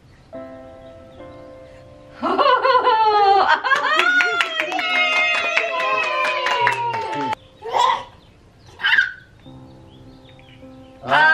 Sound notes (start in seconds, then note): 2.2 laughing; 3.7 cheering